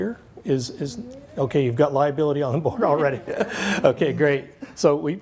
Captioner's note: laughs